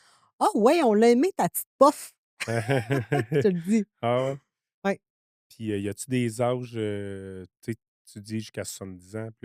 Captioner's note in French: rires